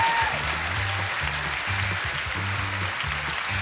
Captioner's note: applause